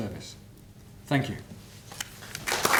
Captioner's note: applause